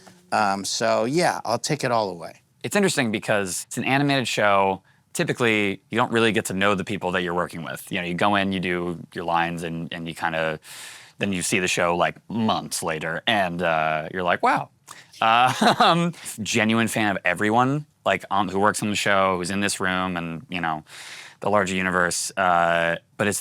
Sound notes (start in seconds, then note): 15.5 laughing